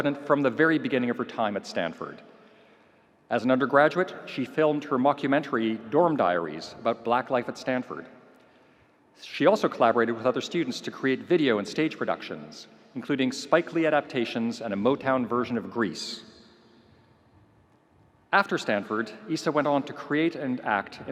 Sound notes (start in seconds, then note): none